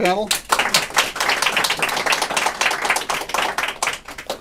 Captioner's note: applause